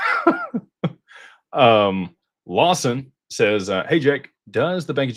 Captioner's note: laughter